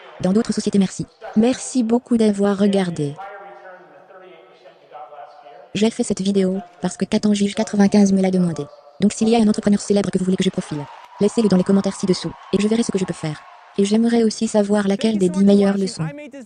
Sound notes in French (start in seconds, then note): 10.3 applaudissements